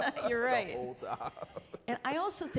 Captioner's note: chuckling